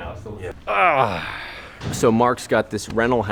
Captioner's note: groans